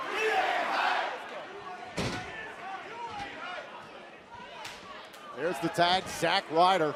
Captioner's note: fans chanting